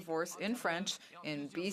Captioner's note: speaking French